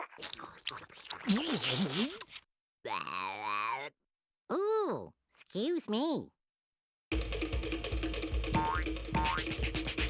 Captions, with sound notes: [Tweety salivating] [belching] OOH, EXCUSE ME.